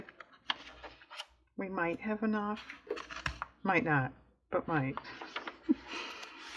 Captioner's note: laughs